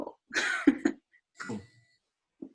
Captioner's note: chuckling